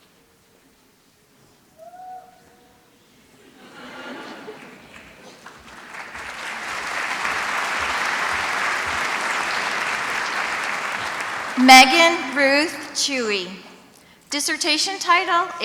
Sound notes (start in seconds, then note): 3.9 laughs; 6.4 applause